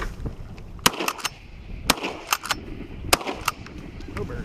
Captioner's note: gun fires